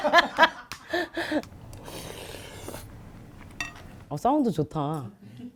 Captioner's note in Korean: 후루룹